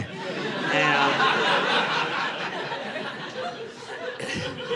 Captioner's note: audience laughing